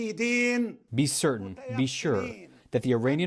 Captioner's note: through translator